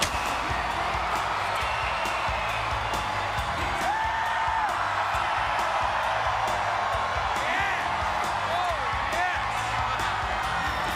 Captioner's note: crowd cheering